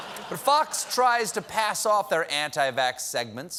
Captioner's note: laughter